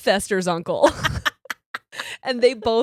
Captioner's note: laughs